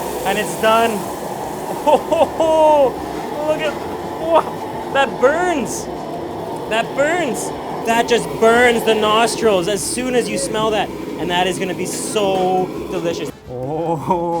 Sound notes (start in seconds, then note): 1.7 laughs